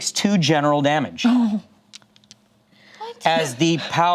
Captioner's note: whimpers